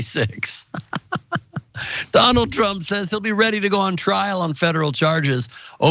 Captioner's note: laugh